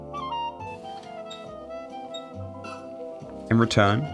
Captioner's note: bed frame squeaking